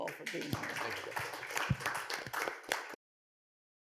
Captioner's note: applause